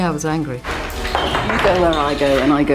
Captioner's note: clattering